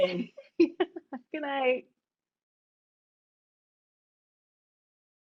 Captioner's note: laughs